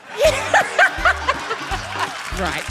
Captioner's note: laughs